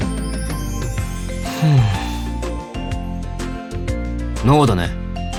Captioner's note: sigh